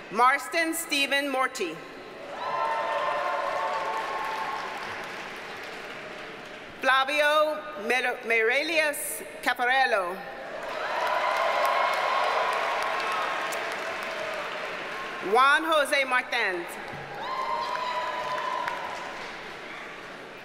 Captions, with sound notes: Marston Stephen Morte. (audience cheers and applauds) Flavio Meireles Caffarello. (audience cheers and applauds) Juan Jose Marthans. (audience cheers and applauds)